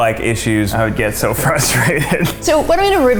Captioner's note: laughing